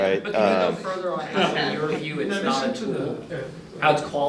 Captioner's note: audience discussing